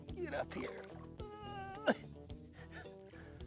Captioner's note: groan s